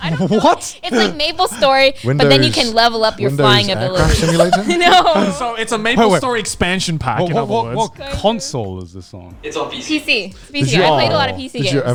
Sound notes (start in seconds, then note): 3.5 all laughing